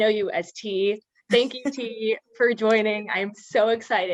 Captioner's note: laugh